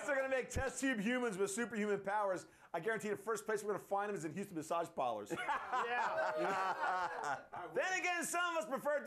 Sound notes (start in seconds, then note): 5.3 laughter